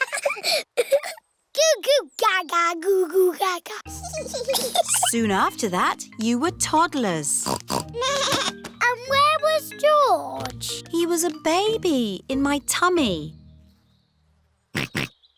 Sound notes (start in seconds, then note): 0.0 both laughing; 7.4 snorts; 8.0 bleats; 14.7 snorts